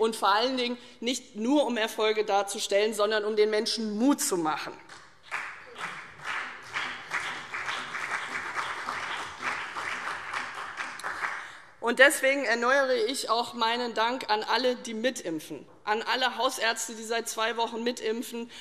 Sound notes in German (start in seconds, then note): 5.2 Beifall CDU und BÜNDNIS 90/DIE GRÜNEN